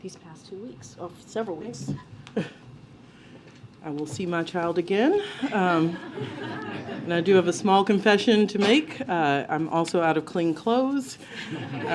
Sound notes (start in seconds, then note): 5.4 laughter; 11.3 laughter